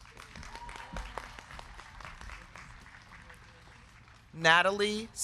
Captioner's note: crowd cheering; crowd clapping